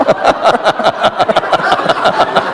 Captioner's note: laughter